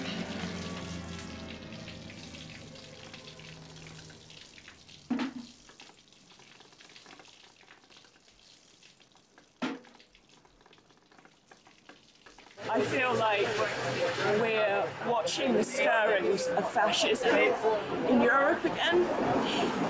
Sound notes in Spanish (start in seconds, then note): 7.1 goteo